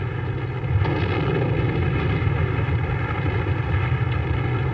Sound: explosions booming

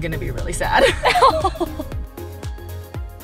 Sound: both laughing; upbeat music

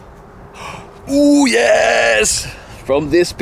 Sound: gasps; group member murmurs

